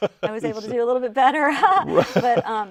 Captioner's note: laughs; laughing